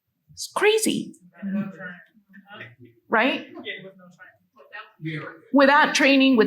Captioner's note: attendees faintly speaking